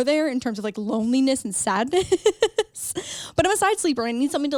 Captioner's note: laughs